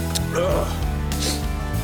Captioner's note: John sniffs and sighs; John groans